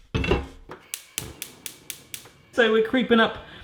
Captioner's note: clicking